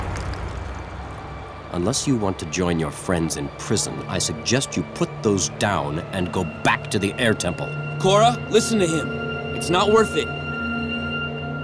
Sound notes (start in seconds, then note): none